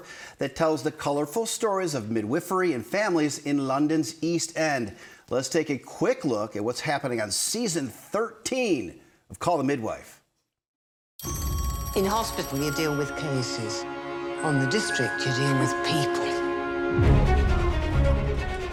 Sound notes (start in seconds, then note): 11.2 phone ringing; 16.8 bright music